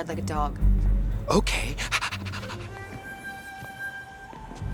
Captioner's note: panting